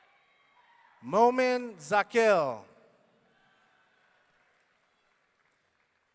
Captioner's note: audience cheering